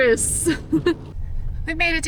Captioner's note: laughs